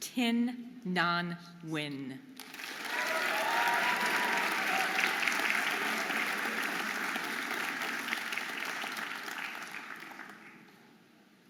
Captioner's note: audience applauding and cheering